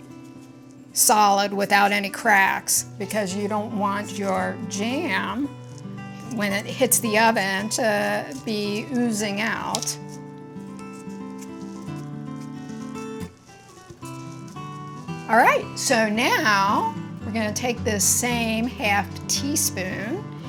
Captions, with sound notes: solid without any cracks because you don't want your jam, when it hits the oven, to be oozing out. (paper shuffling) (gentle music continues) All right, so now we're gonna take this same half teaspoon